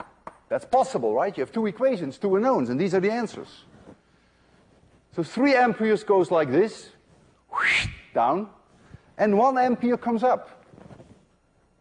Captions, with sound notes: That's possible, right? You have two equations, two unknowns, and these are the answers. So 3 amperes goes like this [wssshhht], down, and 1 ampere comes up.